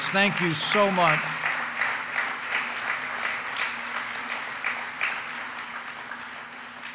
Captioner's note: applause